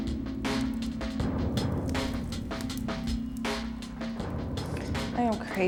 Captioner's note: flames crackling